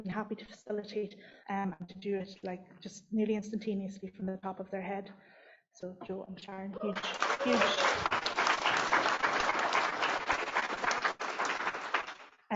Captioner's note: applause